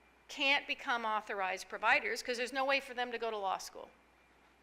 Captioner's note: none